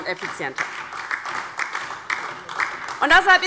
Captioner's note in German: Beifall